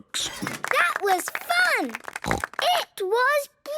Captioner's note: applause